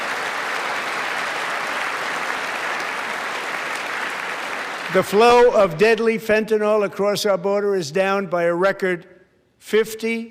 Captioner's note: applause